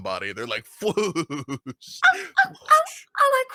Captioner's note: laughs